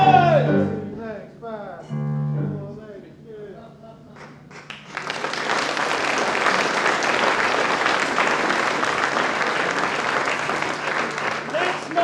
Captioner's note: applause